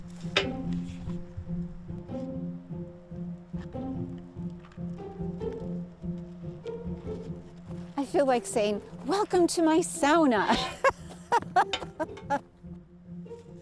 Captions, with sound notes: I feel like saying, welcome to my Sauna, (laughs).